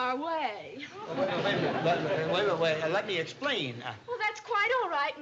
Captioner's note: stammering